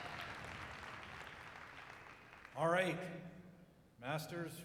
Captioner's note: applause